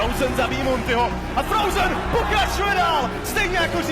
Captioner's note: announcer speaks foreign language